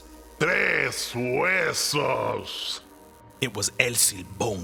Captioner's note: El Silbón speaking Spanish